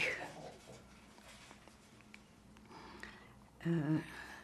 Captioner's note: pauses 6 seconds